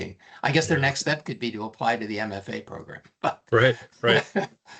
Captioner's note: chuckling